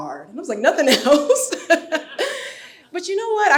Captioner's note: laughs